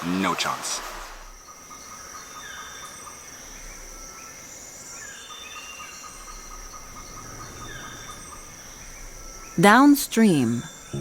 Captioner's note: birds chirping